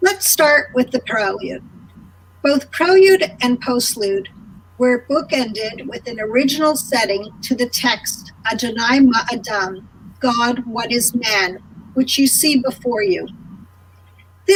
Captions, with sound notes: let's start with the prelude, both prelude and postlude were book-ended with an original setting to the text, (speaking in a foreign language) God what is man, which you see before you.